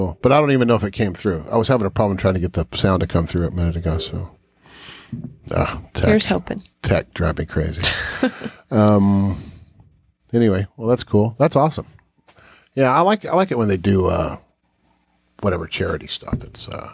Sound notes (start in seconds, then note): 5.5 sighs; 7.8 chuckles